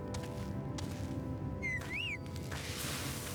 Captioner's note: whistling